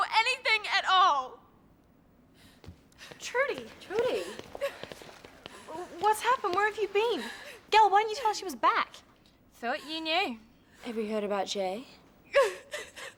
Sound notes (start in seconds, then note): 7.0 Trudy sobs